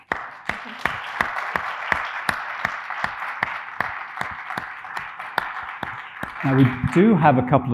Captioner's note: audience applauding